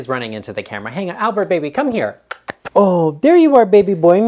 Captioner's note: smooches